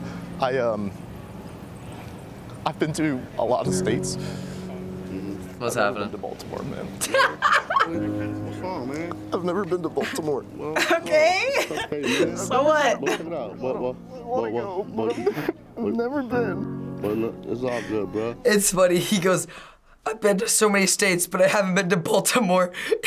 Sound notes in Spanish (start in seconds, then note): 7.0 risas; 10.7 risas; 15.7 solloza